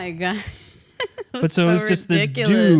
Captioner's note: laughs